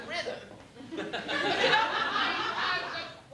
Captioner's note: laughter